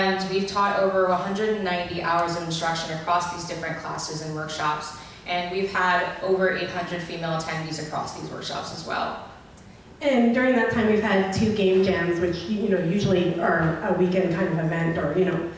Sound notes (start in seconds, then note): 0.3 voiceover; 10.5 voiceover